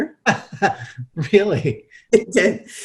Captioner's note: laughs